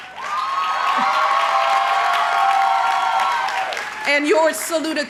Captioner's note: crowd cheering